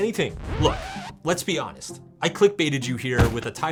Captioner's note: record scratches